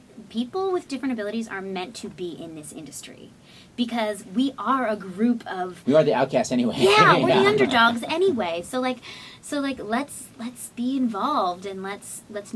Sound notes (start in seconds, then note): 6.8 laughter